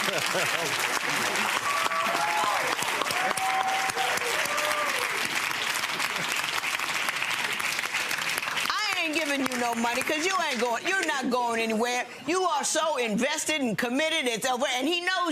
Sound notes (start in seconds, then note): 0.0 chuckles; 0.2 audience clapping; 2.7 audience cheering